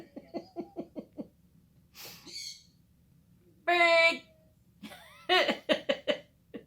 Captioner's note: bird squawking; laughter